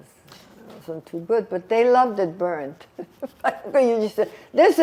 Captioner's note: laughing